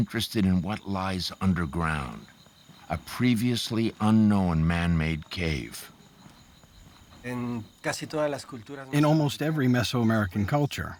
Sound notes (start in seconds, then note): 6.7 speaking Spanish